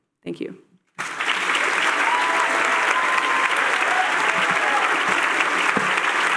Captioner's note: applause